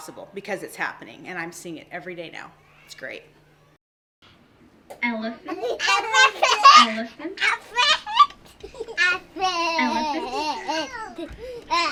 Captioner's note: children chattering